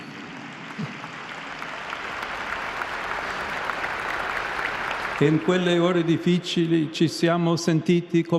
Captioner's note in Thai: ปรบมือ